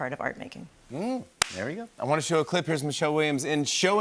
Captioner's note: claps